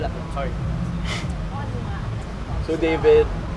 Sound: winces

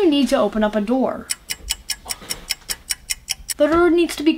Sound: clock ticking

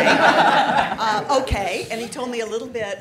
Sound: all laughing

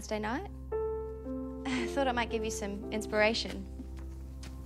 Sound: chuckles

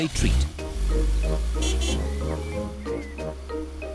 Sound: horn honks

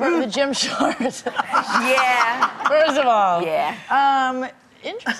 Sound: laughing

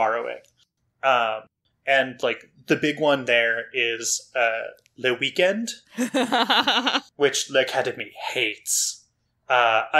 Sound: laughs in recognition

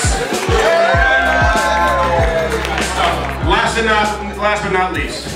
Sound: cheering and applauding

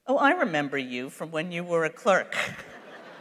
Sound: laughter; laughs

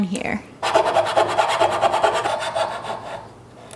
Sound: rasping

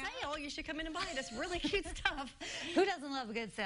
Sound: laughter

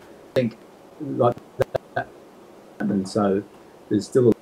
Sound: audio distorting

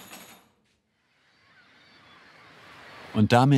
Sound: screeching seagulls

